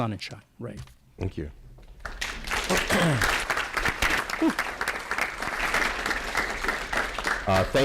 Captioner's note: applause